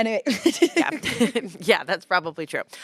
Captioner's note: laughter